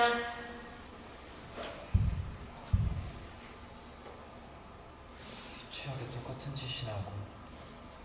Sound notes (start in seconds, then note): 1.9 bump